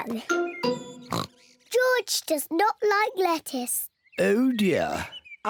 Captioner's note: oinks